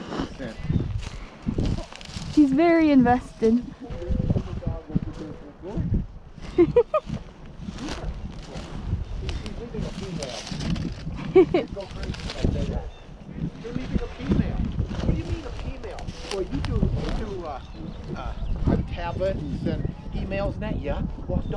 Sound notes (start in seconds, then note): 0.0 laughs; 6.4 laughs; 8.4 wind